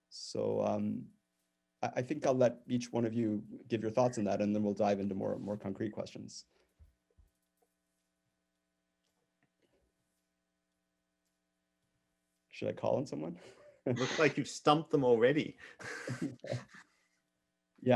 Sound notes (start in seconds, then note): 13.5 chuckles; 15.7 all chuckles